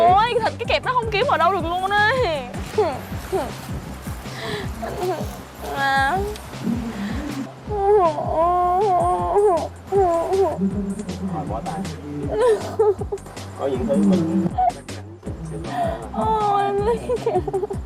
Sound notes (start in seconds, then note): 3.8 groan